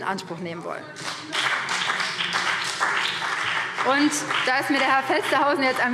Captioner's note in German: Beifall BÜNDNIS 90/DIE GRÜNEN